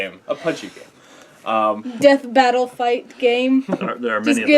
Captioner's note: laugh